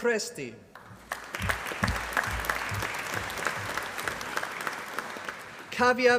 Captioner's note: applause